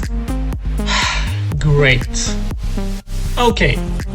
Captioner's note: sighs